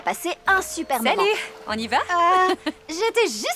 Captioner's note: chuckling